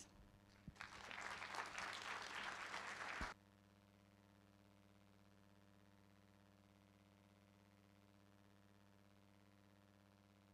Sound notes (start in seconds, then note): 0.5 applause